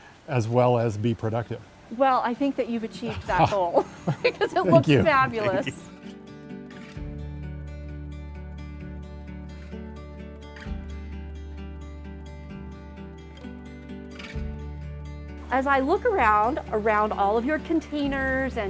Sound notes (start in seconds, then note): 3.0 laughs; 6.2 mellow guitar music